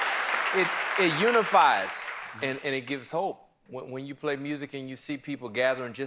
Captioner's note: applause